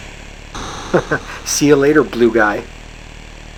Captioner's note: chuckles